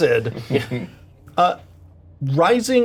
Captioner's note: Bobby laughing